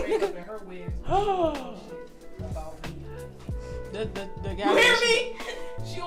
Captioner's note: gasps